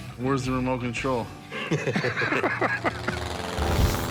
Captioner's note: laughter